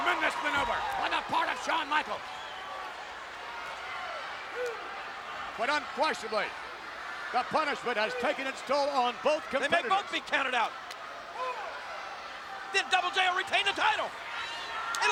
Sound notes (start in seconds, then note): 3.0 audience chattering